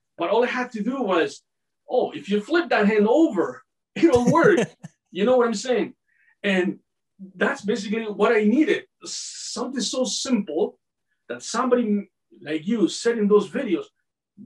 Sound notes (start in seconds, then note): 4.0 laughing